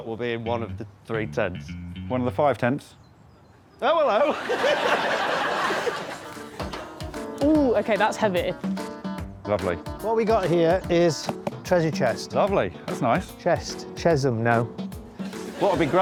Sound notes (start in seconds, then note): 4.1 laughs